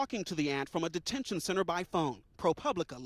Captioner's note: speaking spanish